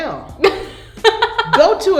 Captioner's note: laughs